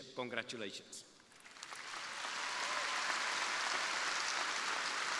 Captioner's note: crowd applauding